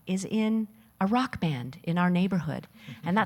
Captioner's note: none